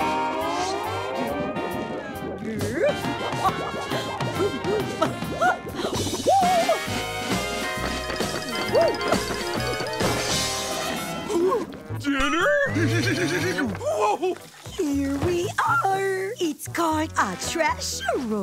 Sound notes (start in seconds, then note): 8.9 chuckles